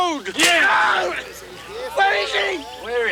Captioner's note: Bruto screams